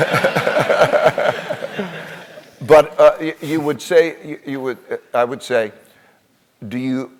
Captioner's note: laugh